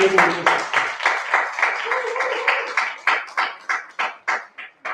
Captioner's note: applause